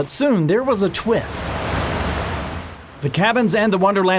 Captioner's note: water flowing